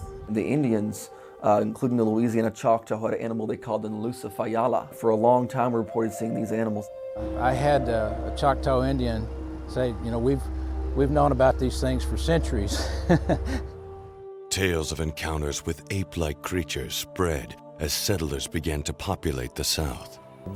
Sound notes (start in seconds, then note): 4.0 speaking foreign language